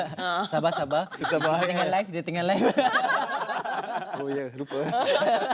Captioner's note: laugh